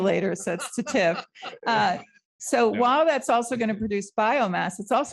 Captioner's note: laughter